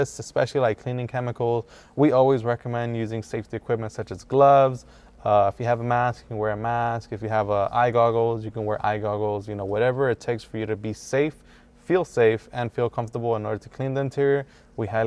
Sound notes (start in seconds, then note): none